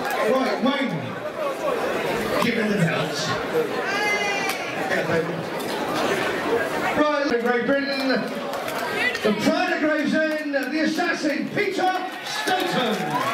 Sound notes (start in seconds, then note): 3.8 cheering